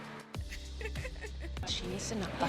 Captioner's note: giggling